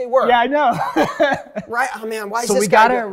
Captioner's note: laughs